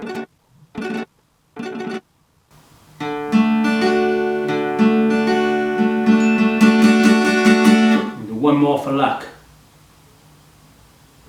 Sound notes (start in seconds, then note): 0.0 plucking Guitar Strings; 6.2 alarm Sounds